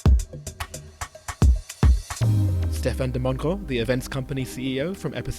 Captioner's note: voiceover